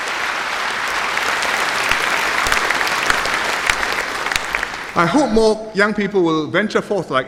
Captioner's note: applause